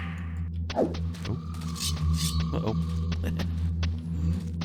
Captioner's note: laughs